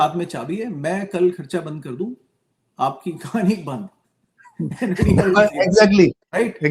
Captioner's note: laughs